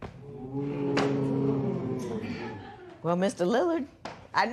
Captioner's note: spectators "Ooh"